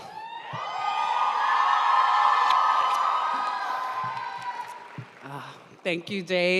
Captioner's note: audience cheering and applauding